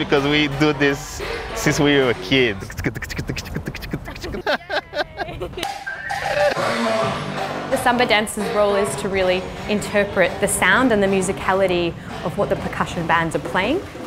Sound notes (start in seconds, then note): 2.6 laughs; 6.4 samba music